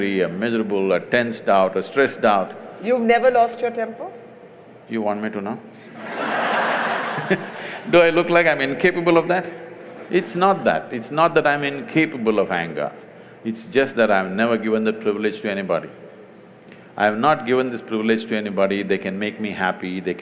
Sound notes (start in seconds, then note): 5.8 laughter; 5.9 laughs